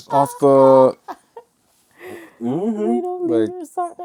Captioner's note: laughter